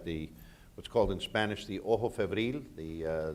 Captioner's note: speaking in foreign language